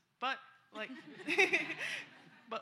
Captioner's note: laughter